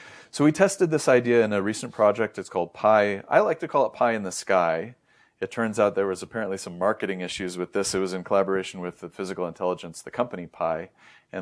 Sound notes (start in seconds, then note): 5.0 inhales